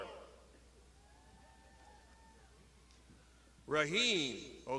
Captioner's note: crowd shouting